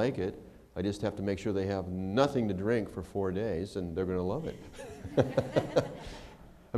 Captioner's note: laughter